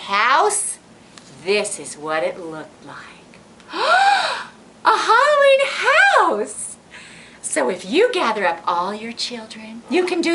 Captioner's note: gasp